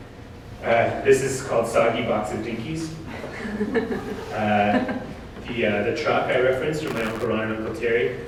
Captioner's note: audience: Laughter